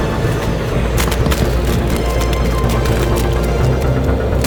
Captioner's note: mud splatting